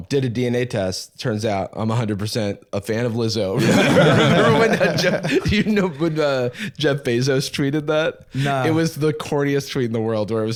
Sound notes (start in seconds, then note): 3.6 laughs